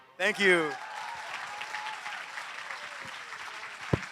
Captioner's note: applause